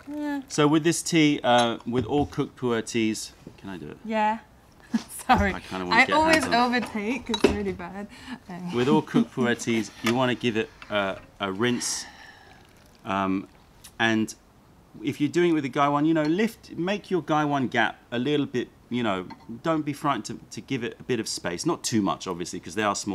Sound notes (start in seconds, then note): 7.1 laugher; 8.8 laughter